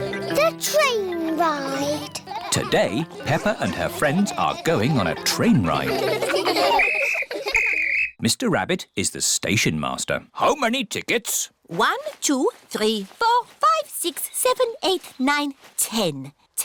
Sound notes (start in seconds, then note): 6.6 blows whistle